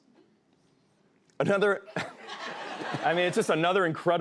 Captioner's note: laughs